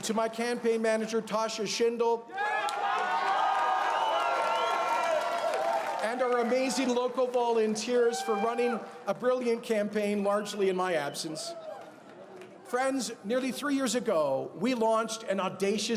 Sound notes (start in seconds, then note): 2.3 cheers and Applause; 8.4 applause